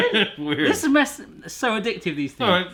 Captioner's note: laughter